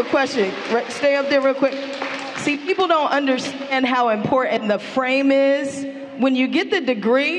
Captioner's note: applause